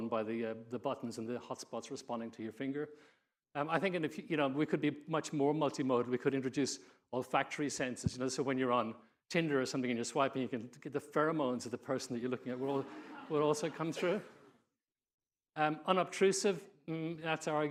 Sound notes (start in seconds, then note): 12.4 audience laughing